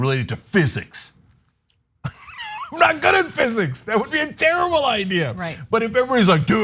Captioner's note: laugh